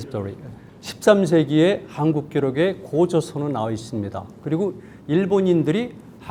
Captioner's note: speaking in Korean